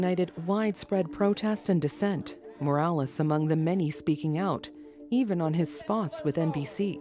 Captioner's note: chanting